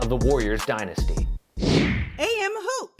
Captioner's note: whooshing sound